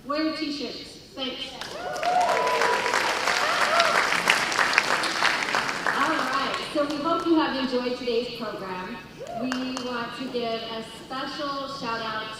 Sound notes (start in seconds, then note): 1.5 cheers and applause